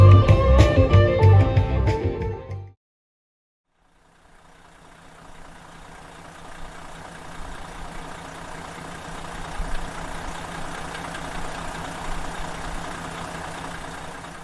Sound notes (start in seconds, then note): 4.7 car engine